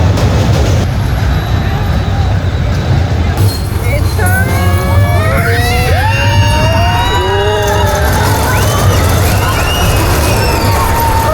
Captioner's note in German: schreien